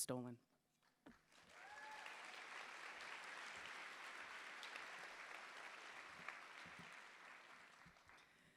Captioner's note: applause